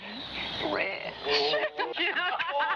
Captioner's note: laughs